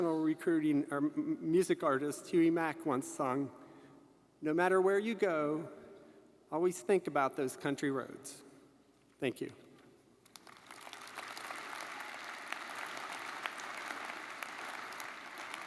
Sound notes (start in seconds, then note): 10.3 audience applauding